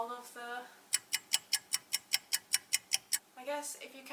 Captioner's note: clock ticking